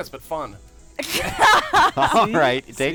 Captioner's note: laughter